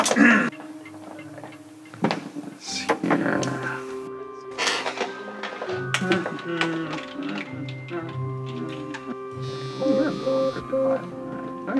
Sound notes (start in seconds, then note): 6.1 humming; 9.4 cellphone buzzing